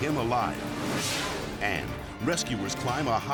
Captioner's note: air whooshes